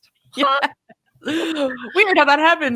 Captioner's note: laughing